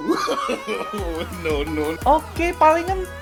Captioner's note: laughing old man effect